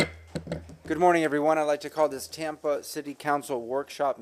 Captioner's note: sounding gavel